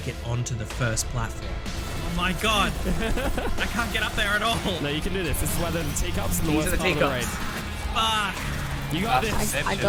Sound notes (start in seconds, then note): 2.6 laughs